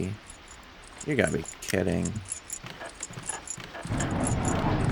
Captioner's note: keys jingling